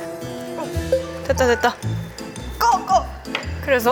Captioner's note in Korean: 때마침 울리는 면 삶기 용 6분 알람